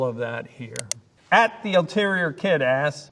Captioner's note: mouse clicking